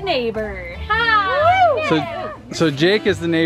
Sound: cheering

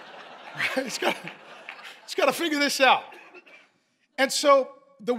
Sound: congregation laughing

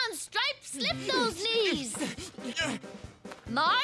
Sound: sneezing

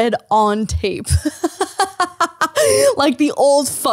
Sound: laughing

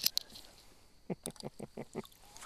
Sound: laughter

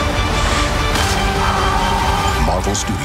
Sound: screaming

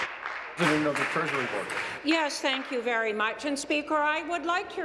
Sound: applause

